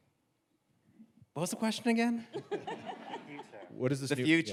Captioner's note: audience laughs